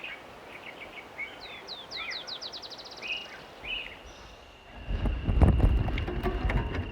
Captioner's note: bird sounds